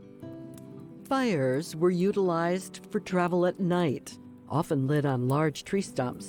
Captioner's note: fire crackling